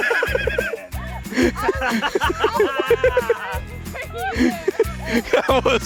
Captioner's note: laughter